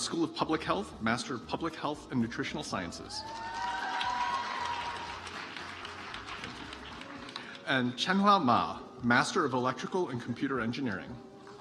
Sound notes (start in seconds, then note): 3.2 audience applauds